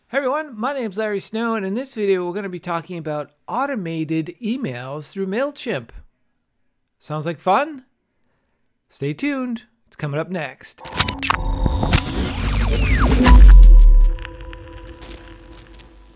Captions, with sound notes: - Hey everyone, my name's Larry Snow, and in this video, we're going to be talking about automated emails through MailChimp. Sounds like fun? Stayed tuned, it's coming up next. (electrical feedback buzzes)